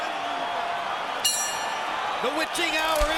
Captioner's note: bell rings